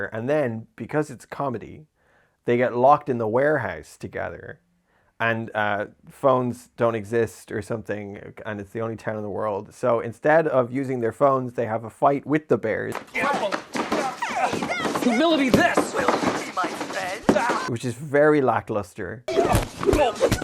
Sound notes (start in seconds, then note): 12.9 sound of fighting with bears